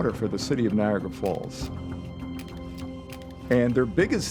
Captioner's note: camera shutter clicking